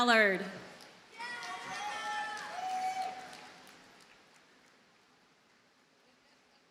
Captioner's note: audience cheers and applauds